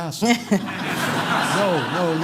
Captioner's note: laughter